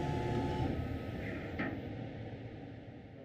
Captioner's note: lathe stops